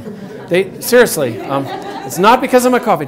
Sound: audience laughs

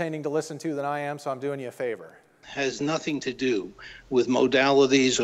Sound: plays recording of podcast

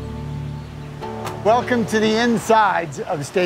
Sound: truck door slams

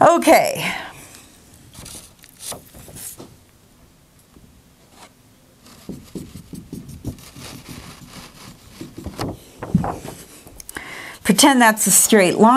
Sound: sound of writing

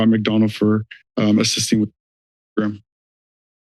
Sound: audio cuts in and out

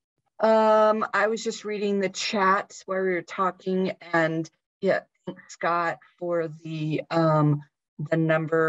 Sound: talking

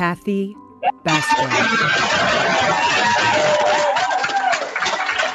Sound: cheering

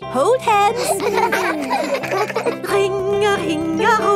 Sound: giggling

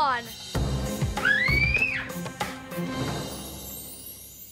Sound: Jaime screams

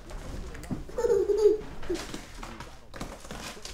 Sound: child laughing

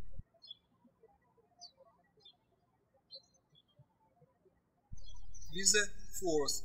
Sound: birds chirping

